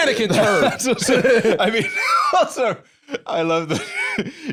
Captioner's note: laughing